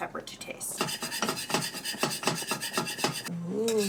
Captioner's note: metallic scraping